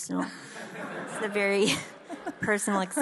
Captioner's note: audience laughs